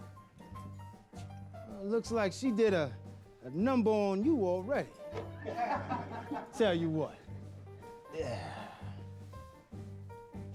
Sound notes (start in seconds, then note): 5.2 men laughing; 7.8 sighs